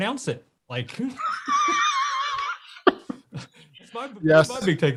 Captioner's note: both laugh